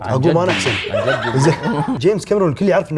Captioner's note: laughter